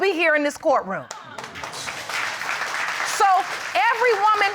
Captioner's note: audience applaud